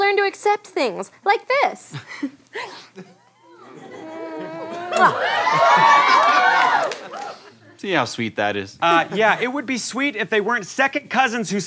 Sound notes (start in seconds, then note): 5.5 cheering